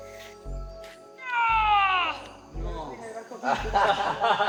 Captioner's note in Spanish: grita